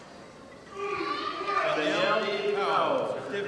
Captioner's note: voice drowned by cheering audience; indistinct screams from audience